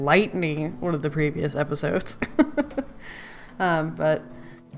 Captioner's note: laughs